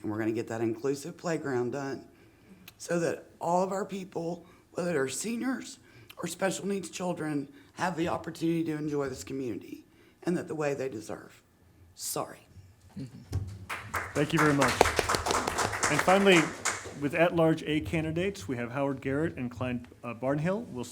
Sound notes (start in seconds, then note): 15.2 audience applauds